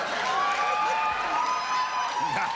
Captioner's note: audience cheering